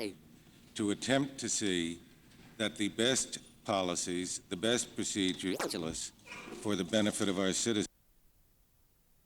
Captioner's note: camera start up noise